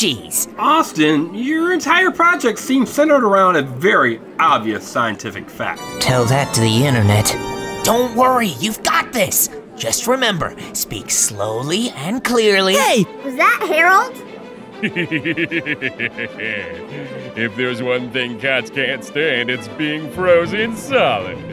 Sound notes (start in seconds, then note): 14.8 Howie laughing